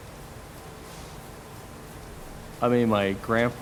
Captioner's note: brooming